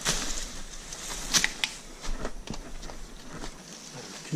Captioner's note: tapping